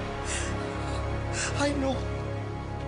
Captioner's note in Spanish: Sollozos